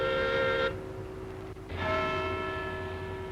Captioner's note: clock strikes